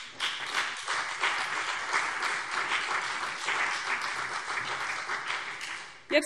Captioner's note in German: Beifall CDU und BÜNDNIS 90/DIE GRÜNEN